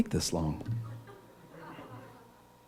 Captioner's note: laughter